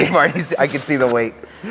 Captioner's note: laughs